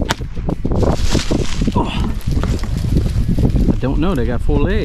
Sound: sound of someone falling

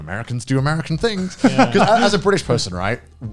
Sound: laughs

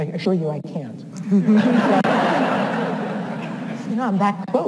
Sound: audience laughs

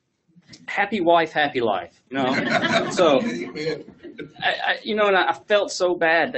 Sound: laughs

